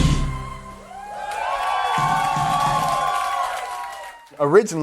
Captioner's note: audience applauding